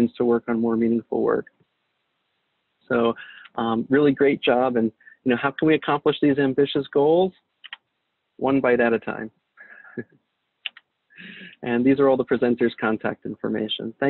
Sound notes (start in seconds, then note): 11.2 chuckles